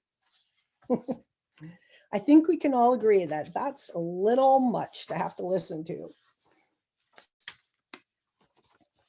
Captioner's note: laughs